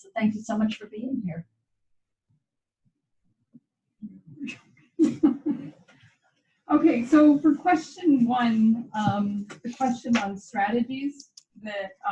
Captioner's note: laughter